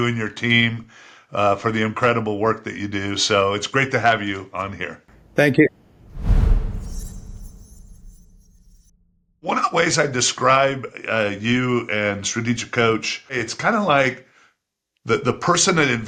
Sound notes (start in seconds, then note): 5.8 graphic whooshing